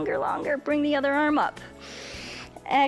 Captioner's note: exhales; inhales